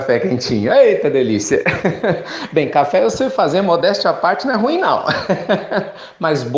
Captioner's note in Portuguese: risadas